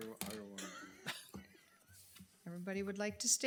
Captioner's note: people chuckle